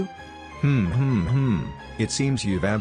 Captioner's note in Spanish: risa malvada